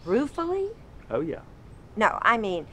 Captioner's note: none